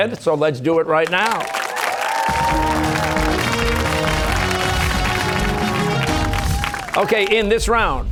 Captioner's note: cheers and applause